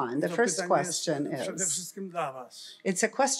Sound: foreign language

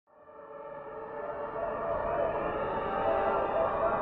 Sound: riot noises, sirens wailing

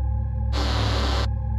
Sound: robot sound effect

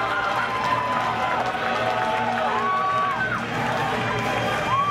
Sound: cheering

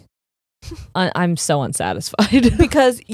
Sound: chuckles

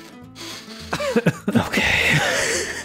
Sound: laughter

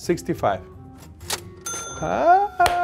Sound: cash register sound; clapping

